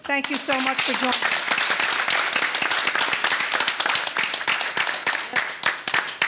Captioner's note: audience applauding